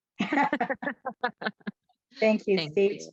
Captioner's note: panelists laugh